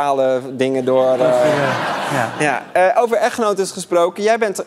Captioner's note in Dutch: gelach